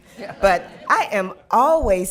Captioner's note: laughter